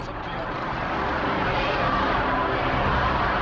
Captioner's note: crowd cheering